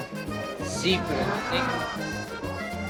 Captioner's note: speaking Spanish